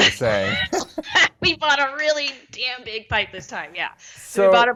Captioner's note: laugh